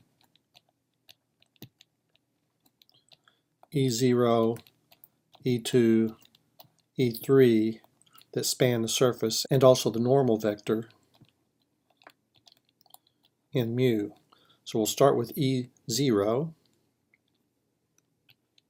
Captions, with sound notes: [ Typing ] -- e zero, e2, e3, that span the surface and also the normal vector -- [ Typing ] -- N mu. So we'll start with e zero.